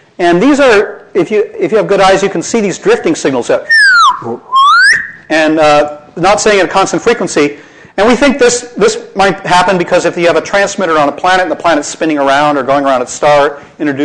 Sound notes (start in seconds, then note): 3.6 whistling